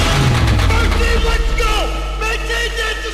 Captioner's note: shouting